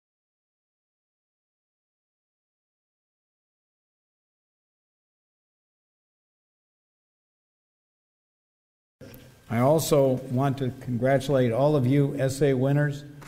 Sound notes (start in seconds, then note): none